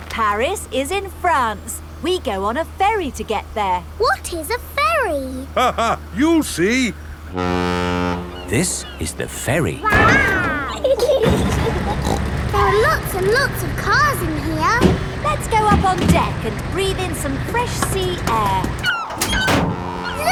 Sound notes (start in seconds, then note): 5.7 laughing; 7.3 ferry horn blows; 11.2 snorts; 11.4 giggling